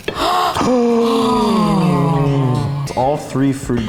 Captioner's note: oohs and ahs